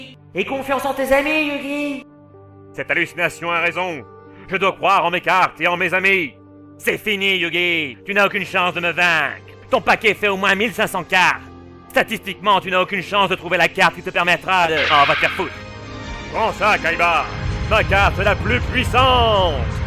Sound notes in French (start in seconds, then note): 14.7 bruitage révélation